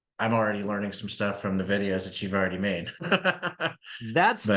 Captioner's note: laughs